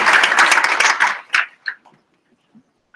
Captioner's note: applause